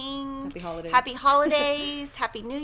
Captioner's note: chuckles